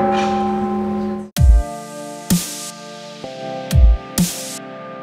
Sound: bells ringing

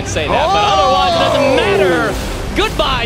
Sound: ohhhh!

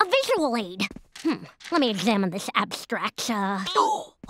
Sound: gasping

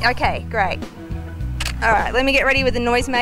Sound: camera shutters

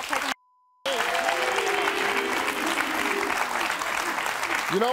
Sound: audience applauding

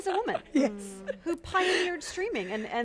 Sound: laughs

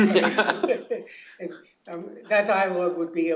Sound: laughter

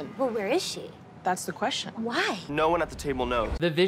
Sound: none

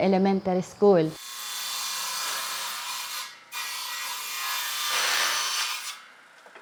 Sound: table saw cutter whirring

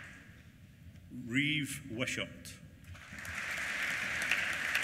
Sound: applause

